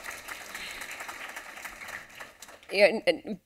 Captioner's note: applause